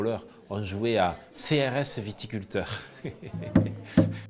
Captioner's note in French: rires